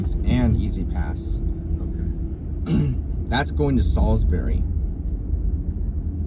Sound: clears throat

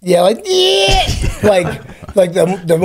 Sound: groans; laughs

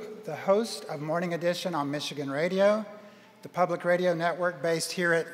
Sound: none

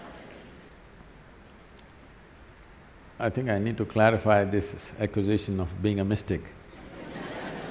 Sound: laughter

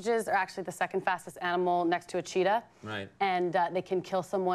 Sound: speaking German

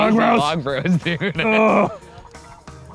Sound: groans

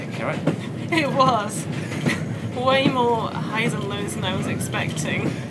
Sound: laughs

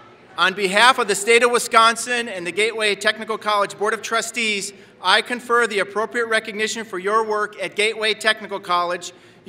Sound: none

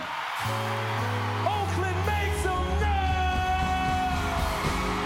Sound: applause

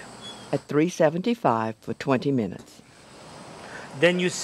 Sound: voiceover

